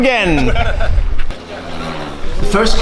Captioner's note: chuckles